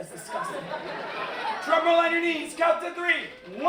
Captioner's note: laughter